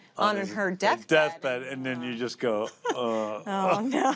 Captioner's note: groans